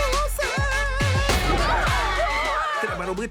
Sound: voice trilling; gunshot

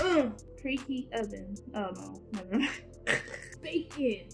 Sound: laughs

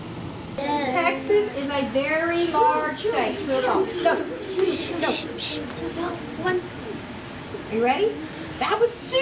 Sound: students discussing answer

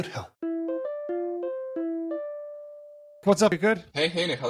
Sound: cell phone ringing

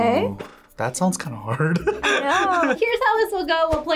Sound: laughs

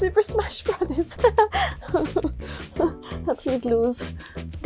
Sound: awkward laugh

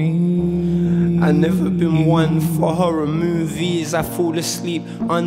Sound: reciting

